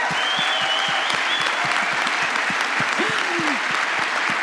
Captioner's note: applause